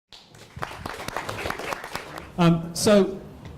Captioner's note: audience applauding